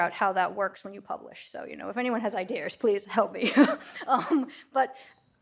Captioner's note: laughs